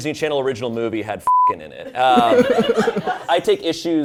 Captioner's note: laughs